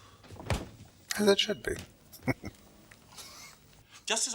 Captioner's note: chuckling